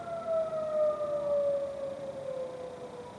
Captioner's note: siren; tornado siren stops